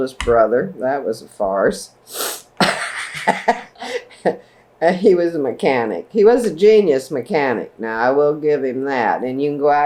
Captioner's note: laughs